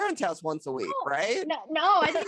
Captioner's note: laughs